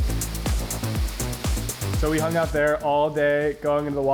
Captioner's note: water bubbles; upbeat techno music